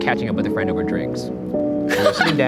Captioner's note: laughing